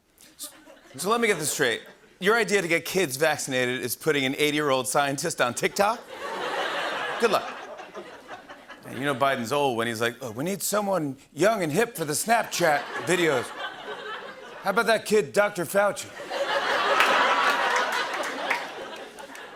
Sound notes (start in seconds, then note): 5.8 laughter; 16.1 laughter